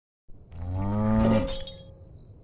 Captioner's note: cow moos; metal clangs